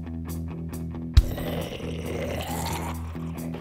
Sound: zombie growls

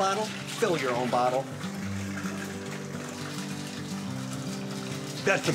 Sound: gentle music; water splashing

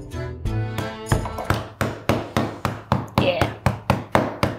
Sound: spoon thunking

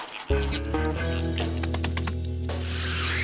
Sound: watch ticking

